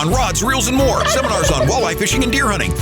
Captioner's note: turkey gobble